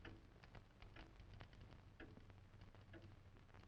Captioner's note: clock ticking